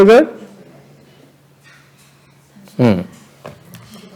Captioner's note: background chattering